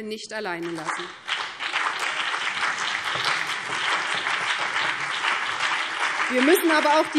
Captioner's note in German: Beifall BÜNDNIS 90/DIE GRÜNEN und CDU